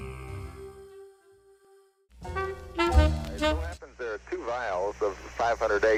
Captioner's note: two-way radio transmission